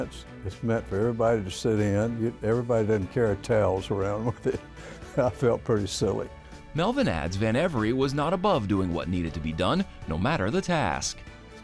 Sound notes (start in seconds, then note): 4.2 laughs